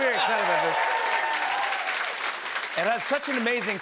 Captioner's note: cheers and applause